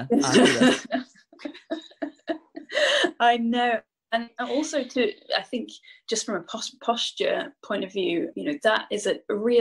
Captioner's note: laughs